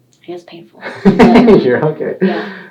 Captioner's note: laughing